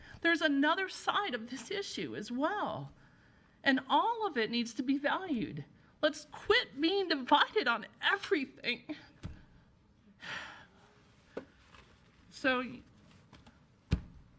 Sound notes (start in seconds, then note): 9.7 sighs